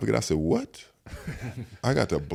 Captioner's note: all laugh